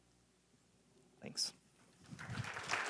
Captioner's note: clapping